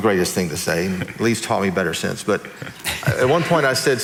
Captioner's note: laughing